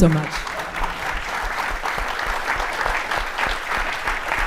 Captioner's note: audience applauding